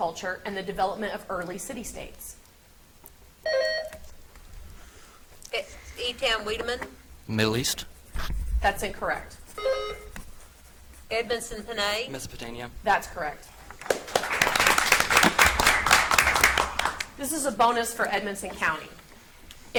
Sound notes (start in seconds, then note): 3.4 buzzer beeps; 9.5 buzzer beeps; 13.7 audience applauds